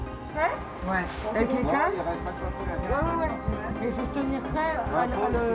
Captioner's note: all speaking French